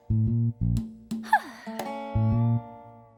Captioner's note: sighing